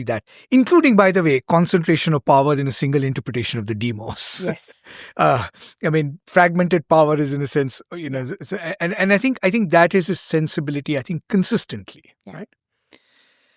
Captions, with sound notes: that, including, by the way, concentration of power in a single interpretation of the demos. [chuckles] Fragmented power—that is a sensibility, I think, consistently.